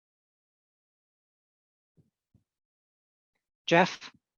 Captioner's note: brief silence